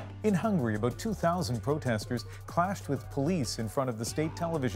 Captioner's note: chants